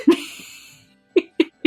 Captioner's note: laughs; theme music fades in